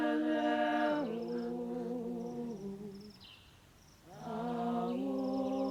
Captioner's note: chanting